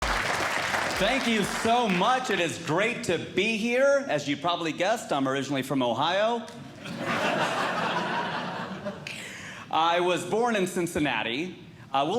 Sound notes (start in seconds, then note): 0.0 audience Clapping; 6.8 audience Laughing